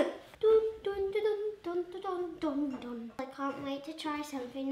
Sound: humming

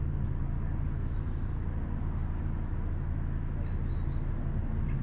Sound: birds chirping

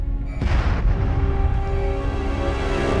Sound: explosion

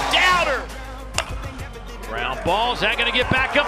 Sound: ball hitting bat

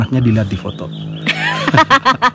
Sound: laugh

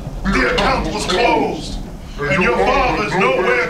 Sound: voiceover

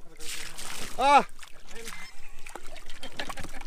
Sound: humbolt squid splashes

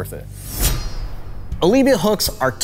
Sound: metal swishing

